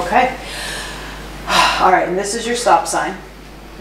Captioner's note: deeply exhales